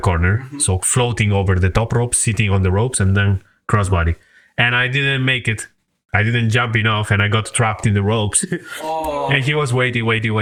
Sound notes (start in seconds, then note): 8.6 laughs